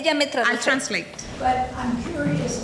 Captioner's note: speaking in foreign language